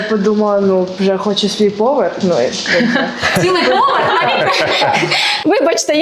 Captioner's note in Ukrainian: сміх